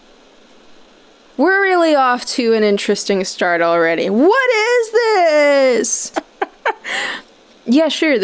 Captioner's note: chuckles